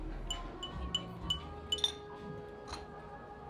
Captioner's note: clinking of spoon on cup